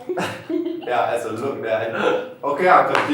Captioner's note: laugh